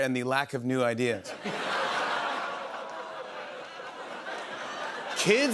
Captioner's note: laughter, audience groans